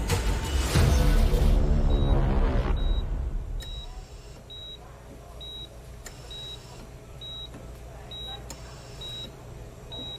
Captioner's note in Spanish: Sonido de telemetría